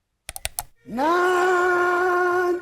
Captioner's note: mouse clicking